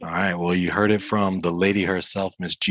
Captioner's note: chuckles